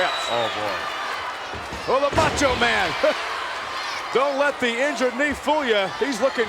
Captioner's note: laugh